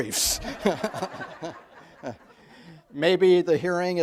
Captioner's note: audience laughs